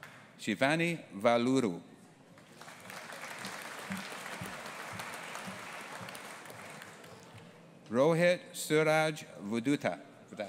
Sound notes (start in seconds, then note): 2.4 audience applauding